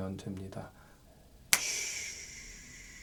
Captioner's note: snap!